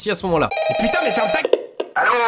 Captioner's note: phone ringing